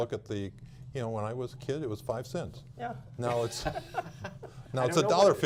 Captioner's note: laughter